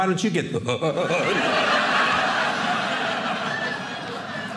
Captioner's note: audience laughing